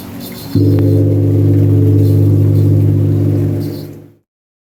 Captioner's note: gong